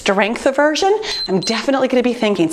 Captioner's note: timer beeps